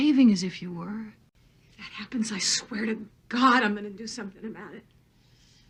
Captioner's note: on TV